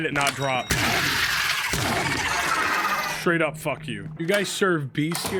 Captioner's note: gun firing